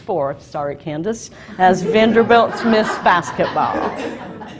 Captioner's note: laughs